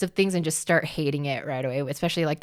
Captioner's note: none